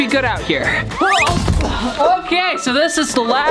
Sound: whistling

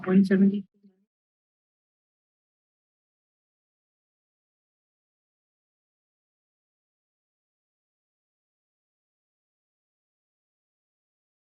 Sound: silence

